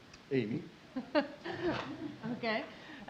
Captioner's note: laughing